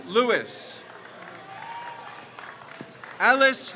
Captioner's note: crowd cheers